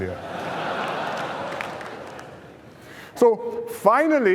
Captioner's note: laughter